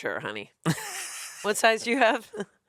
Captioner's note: laughs